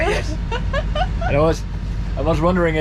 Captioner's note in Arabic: يضحك